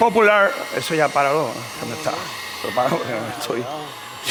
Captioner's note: speaking spanish